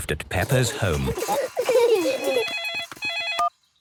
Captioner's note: giggling; phone ringing